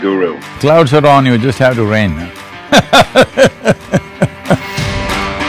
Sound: laughs

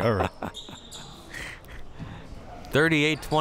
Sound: laughing

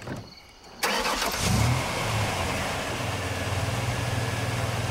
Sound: engine starting

